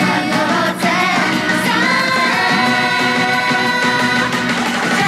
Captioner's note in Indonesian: dengan bersemangat